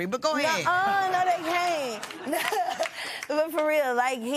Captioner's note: chuckles